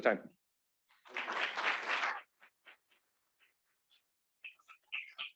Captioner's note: applause